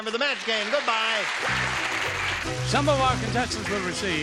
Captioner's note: applause